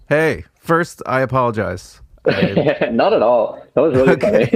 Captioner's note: laughs